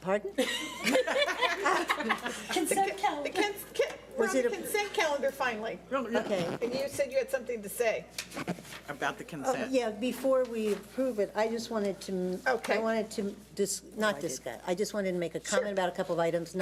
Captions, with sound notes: - Pardon? (laughing) - Consent Calendar, finally. - Okay, you said you had something to say. About the consent-- - Yeah, before we approve it, I just wanted to-- - Okay. - I wanted to just, not, I just wanted to-- - Sure. - Make a comment about a couple of items.